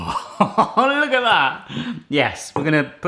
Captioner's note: laughing